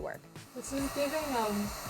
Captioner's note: heat gun humming